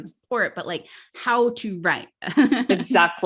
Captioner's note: laughs